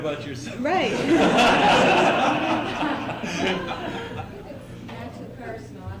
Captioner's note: laughter